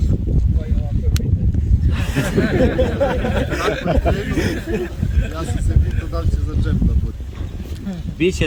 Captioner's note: laughter